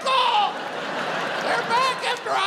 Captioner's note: audience laughs